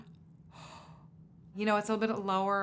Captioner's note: inhales